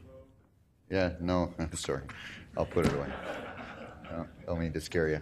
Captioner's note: laughing